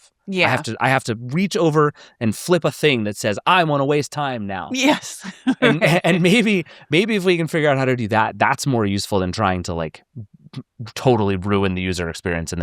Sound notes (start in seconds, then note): 4.8 laughs